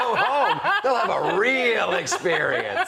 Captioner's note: laughter